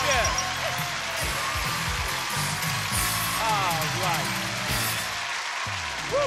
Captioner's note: theme music playing; applause and cheers